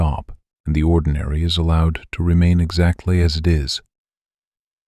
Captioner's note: low voice